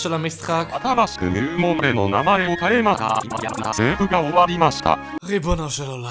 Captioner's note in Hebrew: דיבור צורם ביפנית